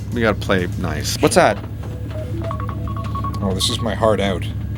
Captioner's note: phone ringing